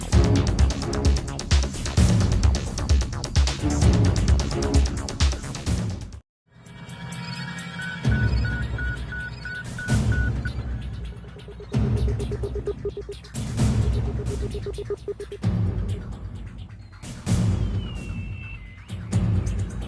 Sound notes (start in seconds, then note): 6.6 electronic beeping; 15.6 radio frequencies